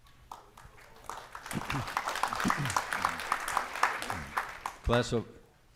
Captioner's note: audience applauding